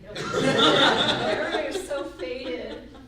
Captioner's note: group laughs